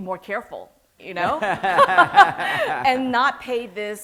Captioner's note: laughter